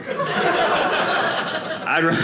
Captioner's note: audience laughing